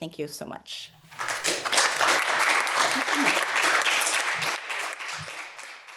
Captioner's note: applause